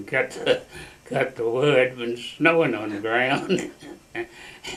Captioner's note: laughs